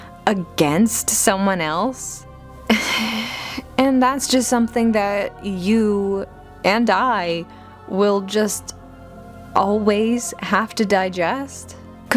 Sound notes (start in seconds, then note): 2.8 frustrated Sigh